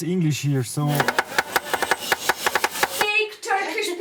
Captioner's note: chopping noise